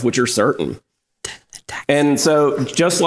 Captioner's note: whispered